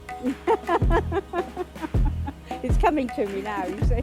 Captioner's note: laughs